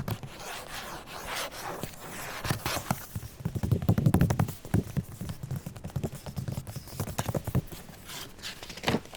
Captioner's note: scratches and taps; flips page